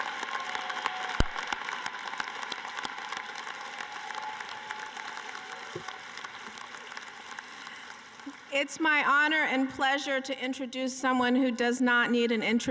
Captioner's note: cheering and applause